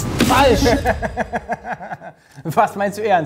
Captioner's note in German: Lachen